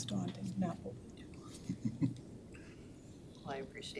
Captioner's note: chuckles